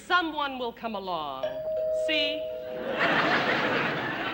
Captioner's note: doorbell rings